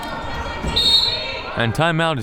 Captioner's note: whistle